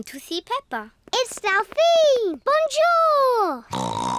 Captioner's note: snorts